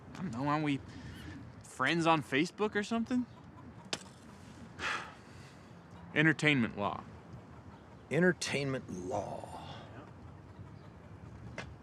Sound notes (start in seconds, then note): 4.8 sighs